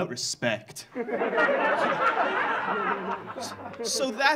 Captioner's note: audience laughing